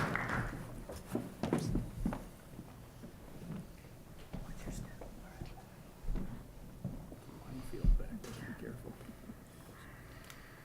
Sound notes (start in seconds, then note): 3.2 whispering